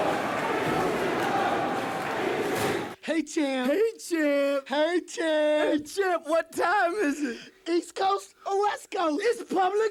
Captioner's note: crowd cheering